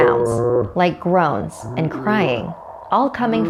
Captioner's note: groaning